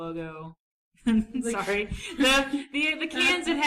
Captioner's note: laughs